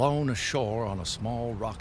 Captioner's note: water gushing